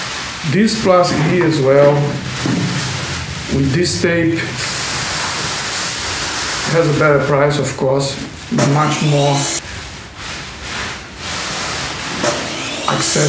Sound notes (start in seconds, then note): 7.7 miter saw sound